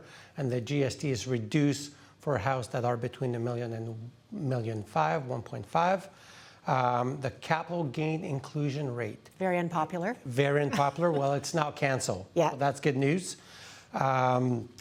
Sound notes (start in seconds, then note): 10.6 chuckles